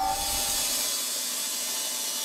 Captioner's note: sawing screech